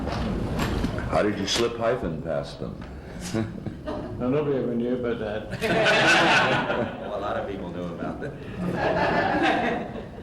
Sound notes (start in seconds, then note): 5.6 much laughter